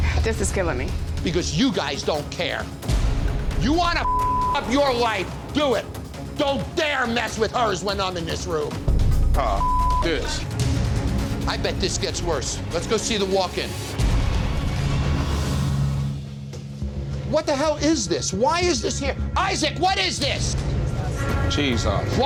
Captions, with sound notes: - This is killing me. - Because you guys don't care. You wanna (beep) up your life, do it. Don't dare mess with hers when I'm in this room. - Ah, (beep) this. - I bet this gets worse. Let's go see the walk-in. (dramatic music) What the hell is this, why is this here? Isaac, what is this? - Cheese sauce.